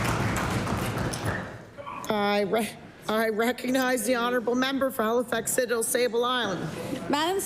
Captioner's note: applause